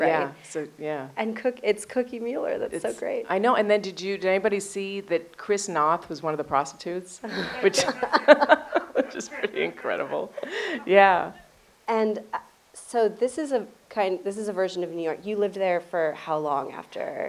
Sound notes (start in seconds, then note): 7.2 both laugh